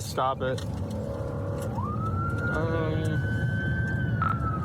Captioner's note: siren wailing